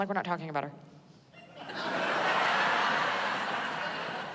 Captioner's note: laughter